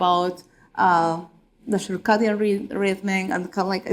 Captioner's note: talking in a foreign language